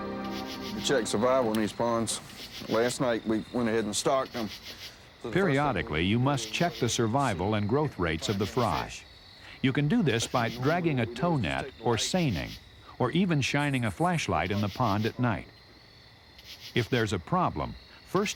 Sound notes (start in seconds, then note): 5.9 voiceover